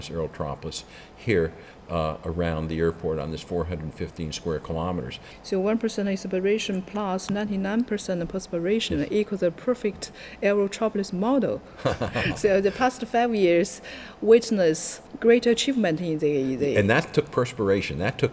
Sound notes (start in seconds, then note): 11.8 laughs